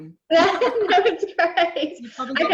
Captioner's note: laughs